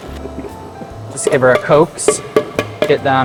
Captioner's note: pitcher clanks